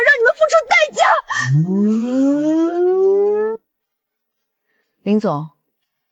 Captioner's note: sobs